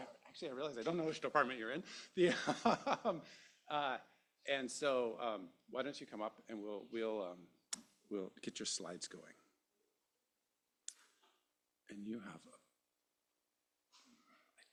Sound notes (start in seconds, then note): 1.7 laughs